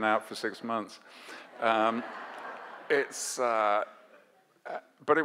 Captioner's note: audience laughs